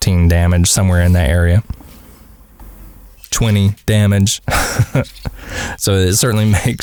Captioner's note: haha